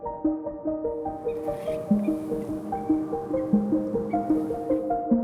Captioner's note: birds chirping